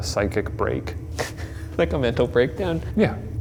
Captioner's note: laughs